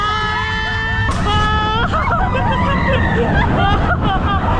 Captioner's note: ominous hit! Starts running backwards